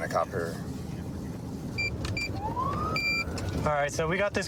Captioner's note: buttons beeping